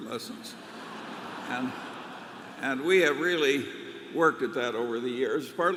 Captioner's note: laughter